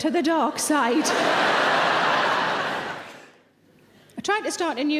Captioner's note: audience laughing